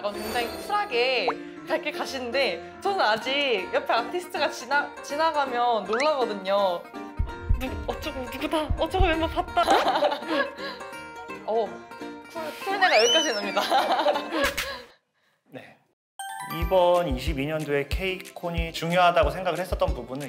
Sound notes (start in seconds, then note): 7.1 heart thumping